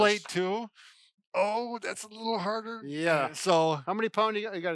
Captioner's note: grunting